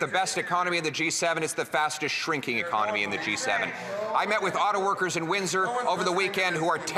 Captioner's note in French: voix de l'interprète